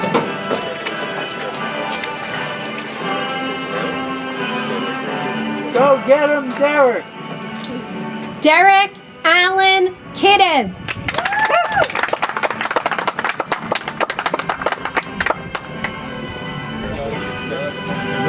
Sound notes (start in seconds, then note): 10.9 audience applauds; 15.8 soft music